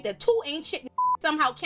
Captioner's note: beep